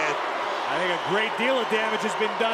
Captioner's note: crowd boos